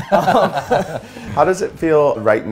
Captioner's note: laughs